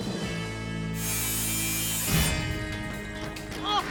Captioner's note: buzzing